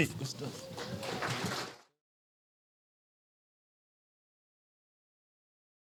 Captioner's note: audience clapping